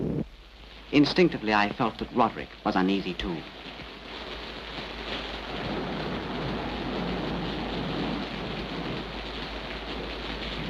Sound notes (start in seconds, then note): 4.0 rain splatters